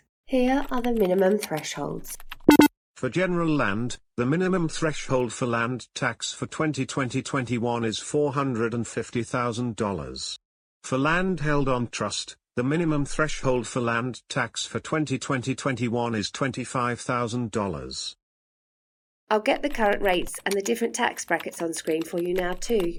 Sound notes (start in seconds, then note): 2.4 computerised beep sound; 17.4 typing sound; 22.7 computerised beep sound